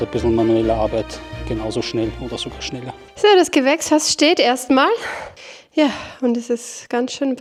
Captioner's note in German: japst; seufzt